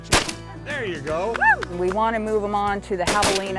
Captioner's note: shot fired